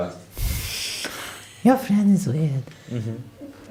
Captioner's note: sighs